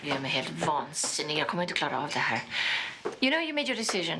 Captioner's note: Inger speaking Swedish